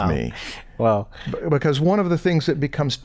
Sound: chuckle

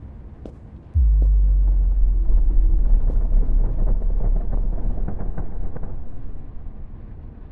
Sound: ominous creaking

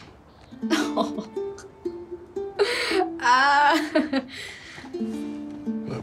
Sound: laughs

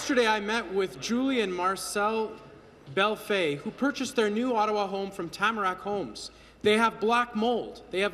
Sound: applause

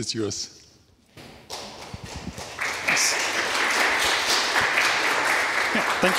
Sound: applause

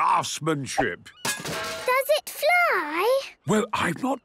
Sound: distant clanging

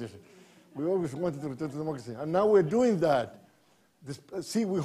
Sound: laughter

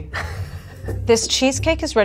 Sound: laughing

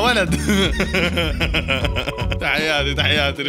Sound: laughter

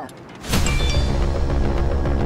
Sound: phone chimes

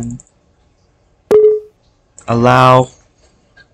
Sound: Vista/7 UCA Sound

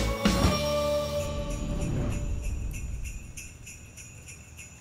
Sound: upbeat music; bells jingling

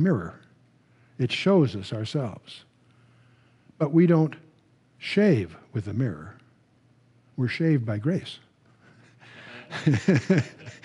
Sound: laughter

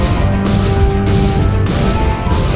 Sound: laser explosion

